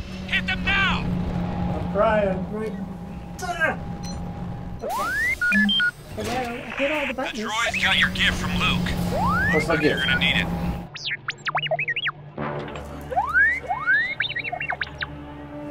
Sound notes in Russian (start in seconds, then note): 2.5 нажатие кнопки; 4.8 Р2-Д2 свистит; 11.0 Р2-Д2 пикает; 13.0 свистит как сирена